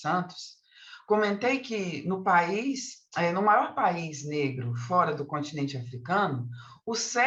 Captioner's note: continues speaking in Portuguese